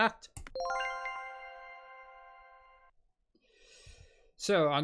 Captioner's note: accept sound